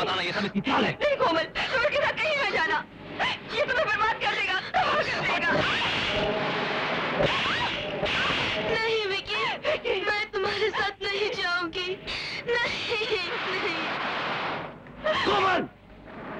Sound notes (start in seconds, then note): 7.0 slaps